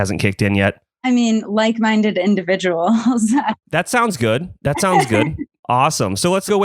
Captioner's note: laughs